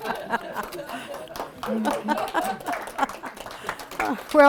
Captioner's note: audience laughing; laughing; audience clapping